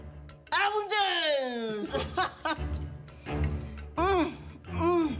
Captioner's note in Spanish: Habla con la boca llena